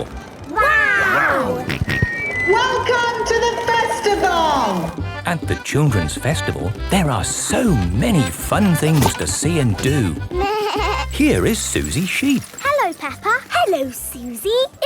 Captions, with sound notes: Wow! - (on microphone) Welcome to the Festival! (jolly folk music) - At the Children's Festival, there are so many fun things to see and do. - Baaa! - Here is Suzy Sheep. - Hello Peppa! - Hello Suzy!